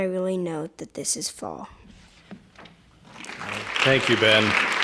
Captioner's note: applause